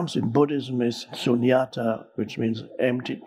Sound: speaking in foreign language

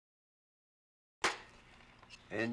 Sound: clap

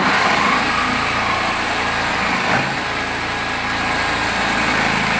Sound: whirring and sawing

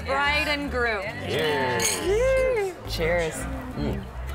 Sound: glasses clinking

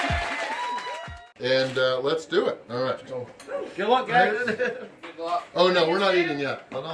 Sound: crowd

